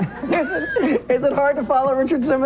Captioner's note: laughs